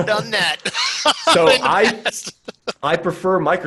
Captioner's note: laughs